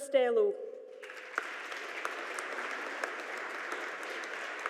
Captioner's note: audience applauding